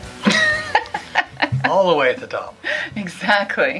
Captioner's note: laughter